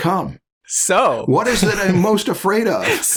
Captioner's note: laughter